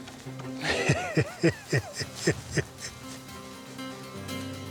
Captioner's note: laughs